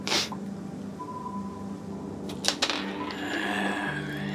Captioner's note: Gunderson sniffles